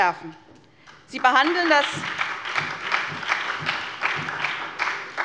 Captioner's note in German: Beifall bei der SPD